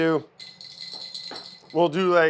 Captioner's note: rattle sounds